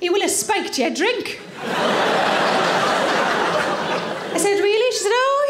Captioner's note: audience laughing